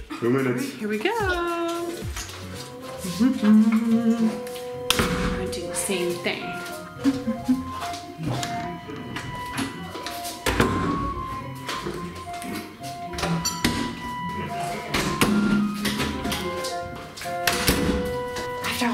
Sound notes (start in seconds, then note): 3.3 humming